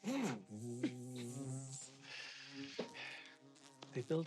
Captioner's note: fly buzzing